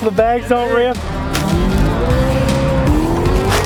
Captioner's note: bag crunching